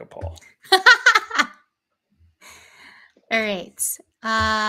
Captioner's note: laughing